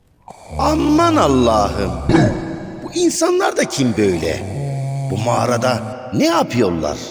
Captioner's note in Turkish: boğazını temizler